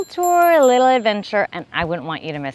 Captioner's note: bell ringing